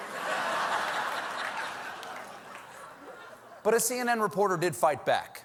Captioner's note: laughter